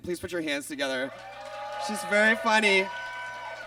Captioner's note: audience cheers and claps